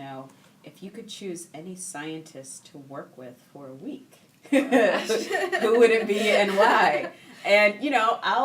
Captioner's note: laughing